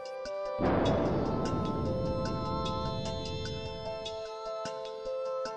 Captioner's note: rocket blast